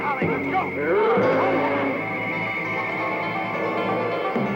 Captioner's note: dinosaur roaring; intense music